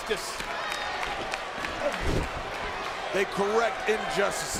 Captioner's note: crowd cheering